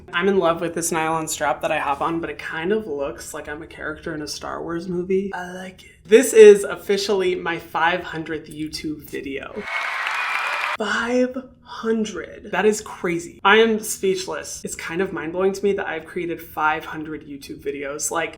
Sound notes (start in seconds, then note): 9.5 crowd cheering